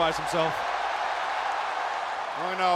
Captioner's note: crowd cheering